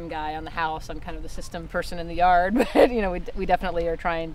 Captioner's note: laughs